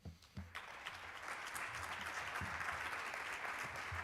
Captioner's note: applause